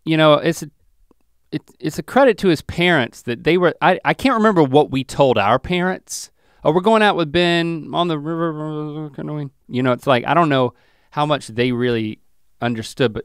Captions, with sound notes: It's a credit to his parents that they were, I can't remember what we told our parents. We're going out with Ben on the river (mutters). It's like I don't know how much they really understood